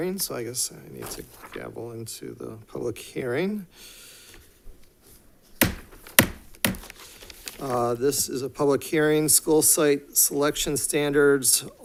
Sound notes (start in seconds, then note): 5.6 gavel thuds